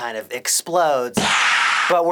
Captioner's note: distorted PSSSHHH